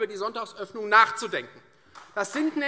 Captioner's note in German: Beifall Freie Demokraten